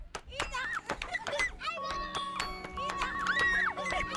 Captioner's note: laughing and shouting